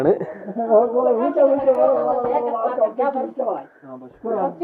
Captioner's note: people talking in Kashmiri language